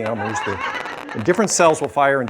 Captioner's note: laughter